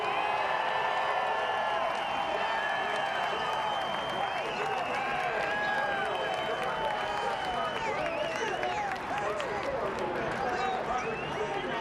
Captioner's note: cheering